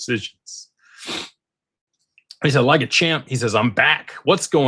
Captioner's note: snorts